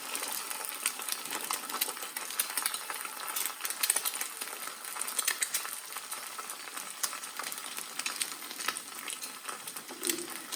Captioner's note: sizzling